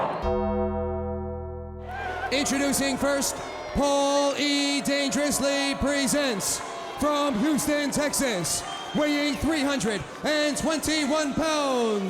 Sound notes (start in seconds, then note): 0.1 dramatic music; 2.0 crowd cheering